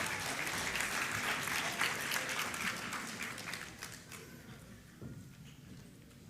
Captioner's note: applause